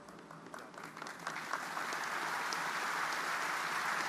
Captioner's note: audience applauding